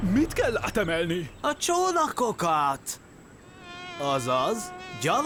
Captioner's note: fly buzzing